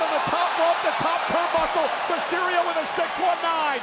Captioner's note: spectators cheering